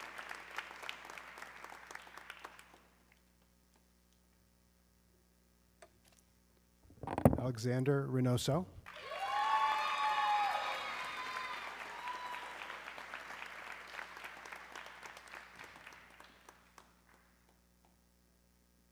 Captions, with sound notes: Alexander Renoso. (audience cheering)